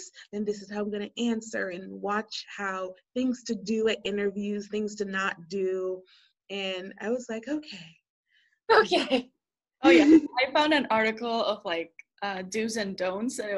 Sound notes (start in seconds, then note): 8.6 laughing